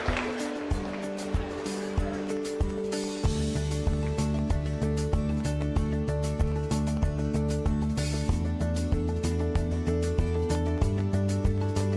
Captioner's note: applause